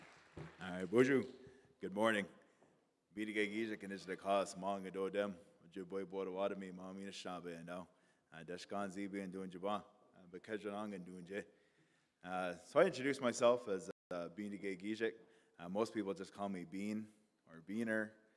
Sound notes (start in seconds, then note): 3.0 in Indigenous language; 11.8 in English